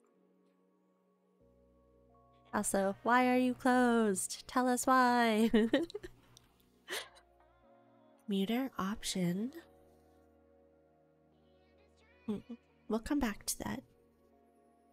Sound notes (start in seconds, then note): 6.9 giggles